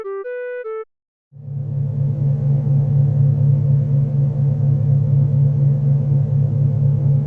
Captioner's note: industrial hum